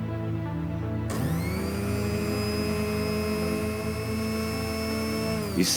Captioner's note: blender whirring